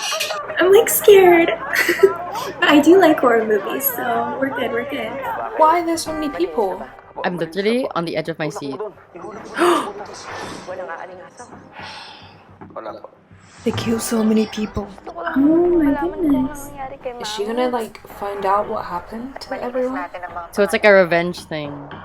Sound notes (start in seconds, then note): 9.5 gasps